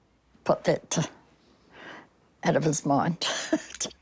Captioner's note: chuckles